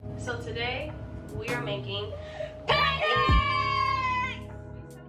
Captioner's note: yells